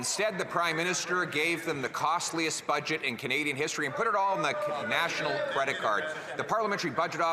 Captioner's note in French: voix de l'interprète